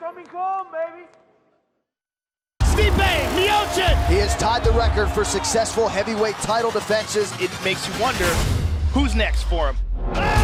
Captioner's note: applause